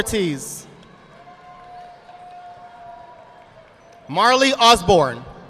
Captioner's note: audience applauding